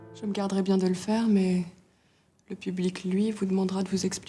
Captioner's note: people speaking in French